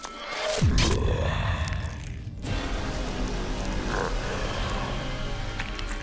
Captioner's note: flesh squelching; mummy growling; blood spurting